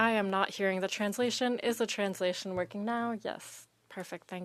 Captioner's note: speaking French